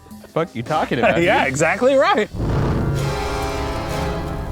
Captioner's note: fire whooshing; dramatic music